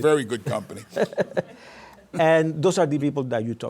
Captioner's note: laughter